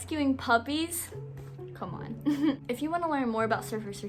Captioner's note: chuckles